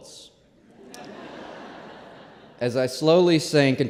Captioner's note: laughter